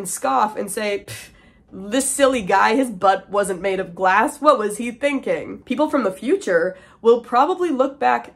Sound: scoff

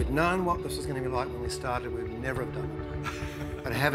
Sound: laughing

